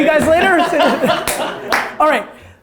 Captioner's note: laughter